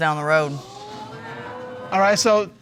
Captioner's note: audience exclaim